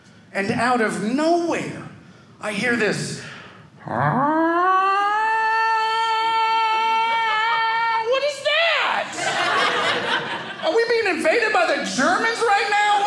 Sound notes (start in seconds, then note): 3.6 siren sound; 9.0 audience laughing